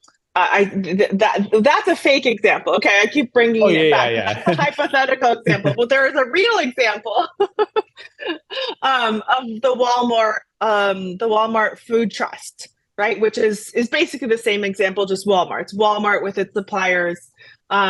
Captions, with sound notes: That's a fake example. Okay, I keep bringing it back- - Oh yeah, yeah. - That's a hypothetical example. But there is a real example (laughs) of the Walmart Food Trust, right? Which is basically the same example, just Walmart's. Walmart with its suppliers